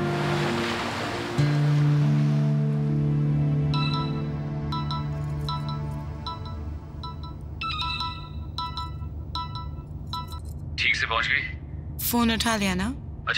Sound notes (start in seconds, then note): 3.7 Phone ringing